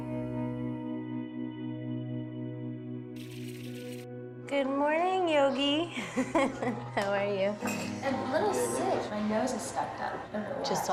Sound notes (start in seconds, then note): 5.9 chuckling